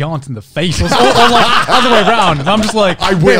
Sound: everyone laughs

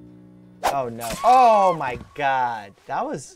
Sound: swooshing; string plucking again; woman screaming

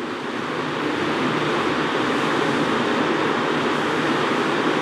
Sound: fans blowing

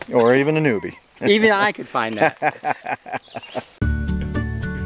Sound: laughs

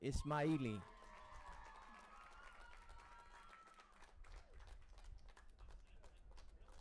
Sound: audience applauding and cheering

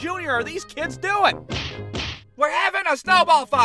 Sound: smack, Smack!

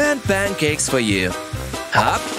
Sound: none

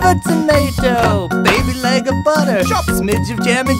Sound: chop

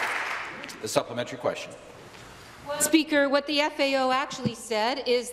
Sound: some Applause

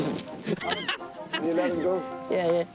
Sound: cackling

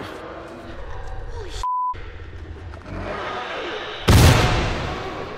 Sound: Bloater shrieks; faint shrieks; explosion

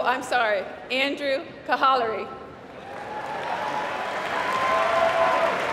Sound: applause

